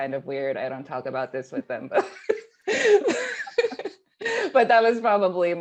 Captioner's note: laughing